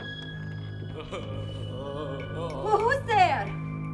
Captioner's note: moaning